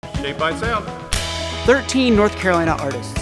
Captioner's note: lively music; clapperboard snaps